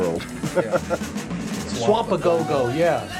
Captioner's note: man laughing